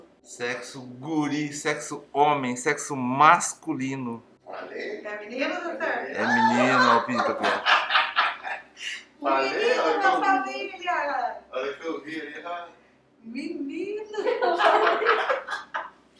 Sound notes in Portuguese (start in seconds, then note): 6.2 risos; 14.1 risos